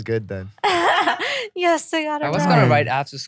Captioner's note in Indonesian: tertawa